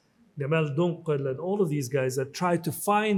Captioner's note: speaks in foreign language